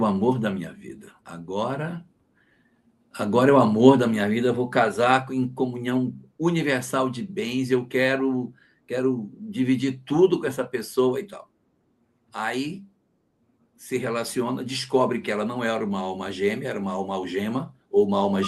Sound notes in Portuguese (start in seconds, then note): none